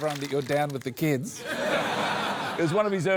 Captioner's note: laughter